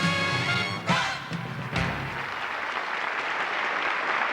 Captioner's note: applause